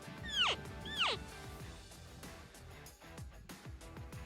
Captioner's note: elk call